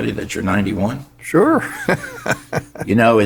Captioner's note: laughs